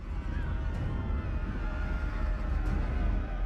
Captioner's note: shouting